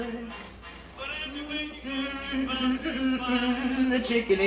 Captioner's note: humming